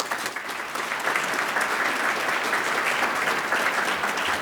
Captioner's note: audience applauds